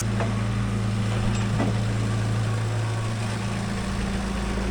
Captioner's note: engine rumbling